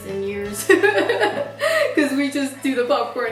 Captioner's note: laughs